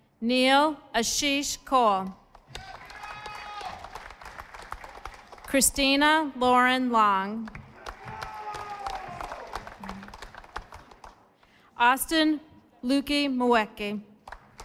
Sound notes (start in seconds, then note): 2.4 audience applauding; 7.4 audience applauding